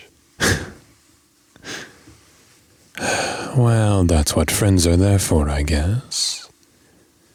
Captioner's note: sigh